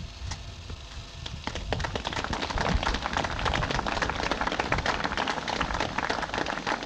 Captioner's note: applause